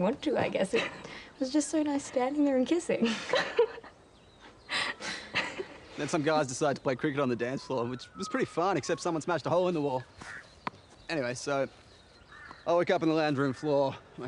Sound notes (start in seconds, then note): 4.4 giggling